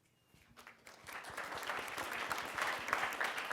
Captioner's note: applause